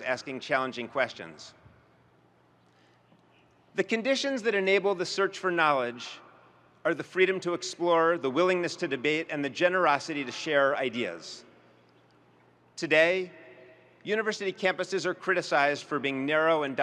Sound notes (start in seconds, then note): none